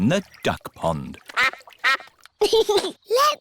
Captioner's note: quacking; giggles